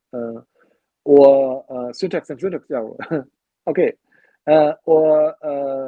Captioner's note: chuckles